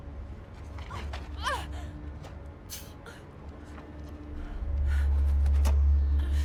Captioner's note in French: la femme gémit